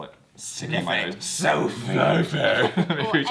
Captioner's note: in a creepy voice; also in a creepy voice